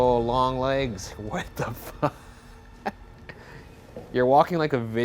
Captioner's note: laughing